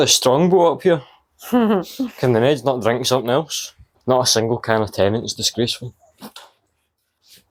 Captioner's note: laughter